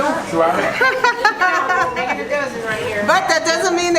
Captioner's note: laughs